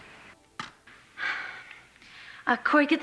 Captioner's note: sighs